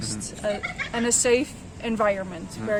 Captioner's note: kids laughing